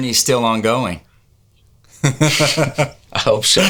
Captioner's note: laughing